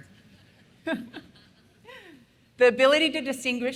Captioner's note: laughs